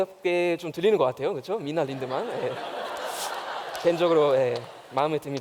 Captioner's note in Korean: 웃음